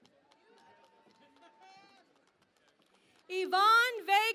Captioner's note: cheering and Applause